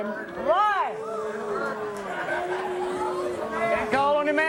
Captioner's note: audience booing